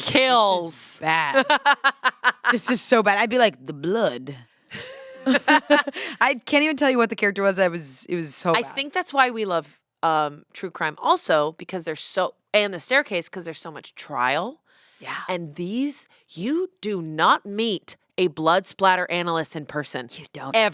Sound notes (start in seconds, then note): 1.3 laughs; 4.7 laughter